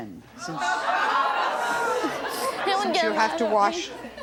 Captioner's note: audience exclaims